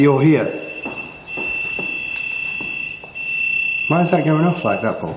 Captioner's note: high pitched beeping